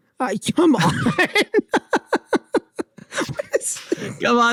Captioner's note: speakers laughing